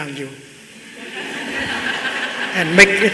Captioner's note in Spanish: Risas